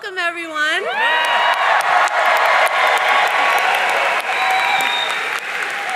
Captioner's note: audience cheering and applauding